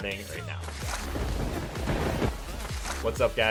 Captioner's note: lightning strikes